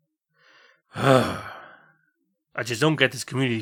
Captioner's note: sigh